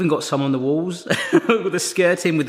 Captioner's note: laughing